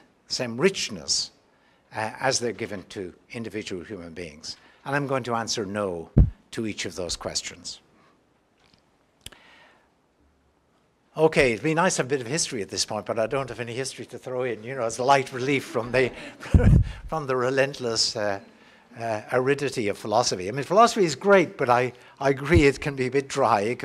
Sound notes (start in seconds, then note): 15.6 laugh